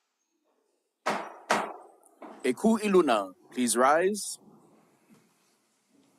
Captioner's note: gavel bangs twice